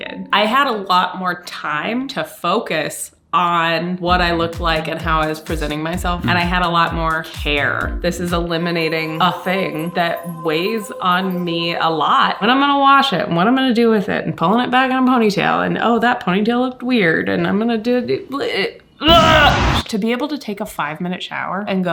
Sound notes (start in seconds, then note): 18.9 grunting